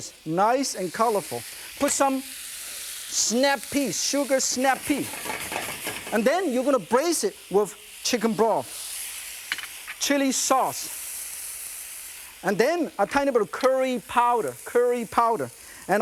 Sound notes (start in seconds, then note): none